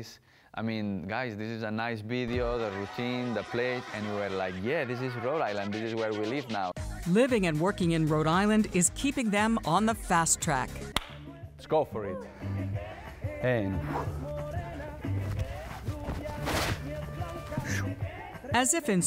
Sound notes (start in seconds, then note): 11.0 claps